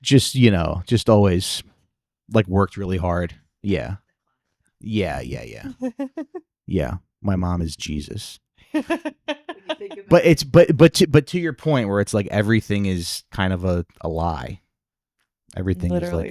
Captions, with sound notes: Just, you know, just always, like worked really hard. Yeah, yeah, yeah, yeah. Yeah, my mom is Jesus. (laughing) But it's, but to your point where it's like everything is kind of a lie. Everything is like--